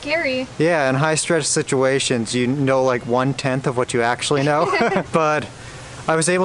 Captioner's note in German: Gelächter